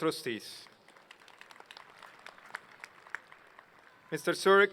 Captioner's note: applause